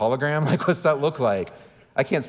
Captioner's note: laughing